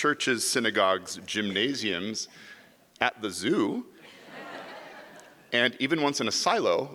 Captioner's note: audience laughs